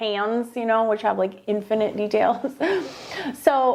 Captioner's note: laughing